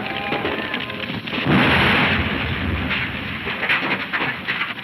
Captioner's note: explosion booming